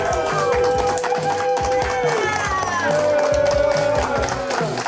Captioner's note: crowd clapping and cheering